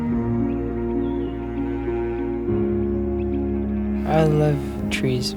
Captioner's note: birds chirping